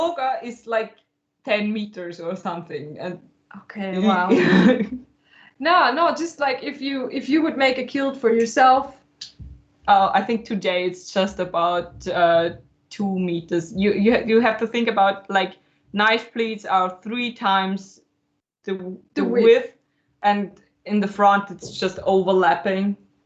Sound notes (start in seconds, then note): 4.0 laughs